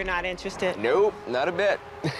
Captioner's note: laughs